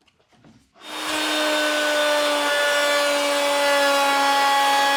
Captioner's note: driller whirring; cutter whirring